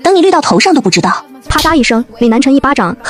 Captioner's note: slap !